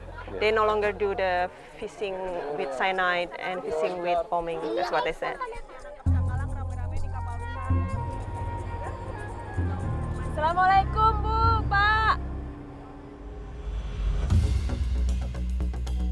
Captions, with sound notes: They no longer do the fishing with cyanide and fishing with bombing. That's what they said. [indistinct chattering] [speaking Austronesian language] [thrilling music]